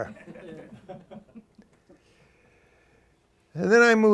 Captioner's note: laughter